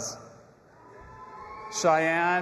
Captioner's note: audience applauding and cheering